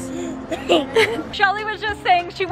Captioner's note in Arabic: ضحك